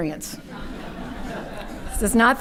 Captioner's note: audience laughing